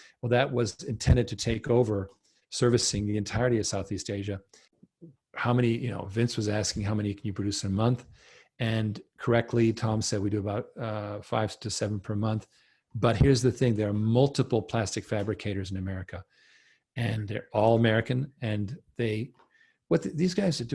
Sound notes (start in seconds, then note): none